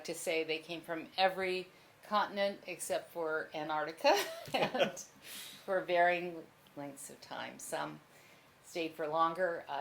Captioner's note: laughter